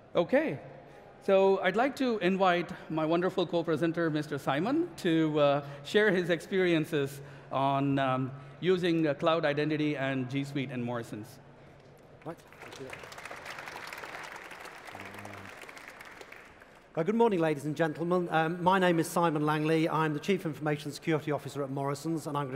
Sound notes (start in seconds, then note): 12.2 applause